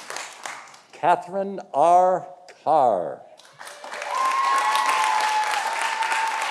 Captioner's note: audience applauding